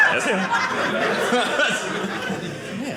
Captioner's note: audience laughing